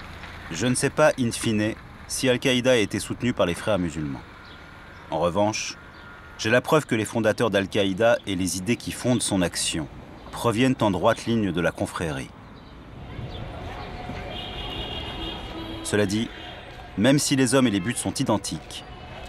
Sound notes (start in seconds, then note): 13.4 urban noises